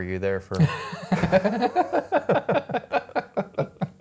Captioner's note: laughing